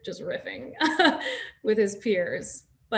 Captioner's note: Nasim chuckles